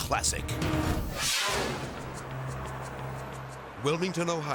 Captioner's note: screen exploding